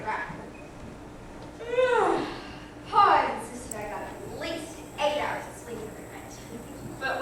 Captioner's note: big yawn